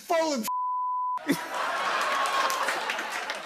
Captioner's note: laughter